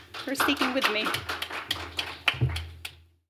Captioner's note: applause